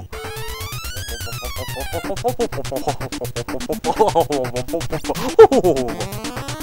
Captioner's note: helicopter releases retarded sounds